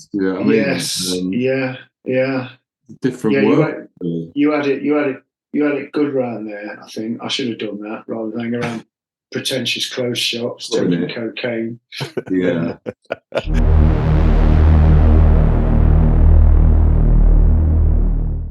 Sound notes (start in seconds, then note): 11.9 laughing; 13.4 ominous music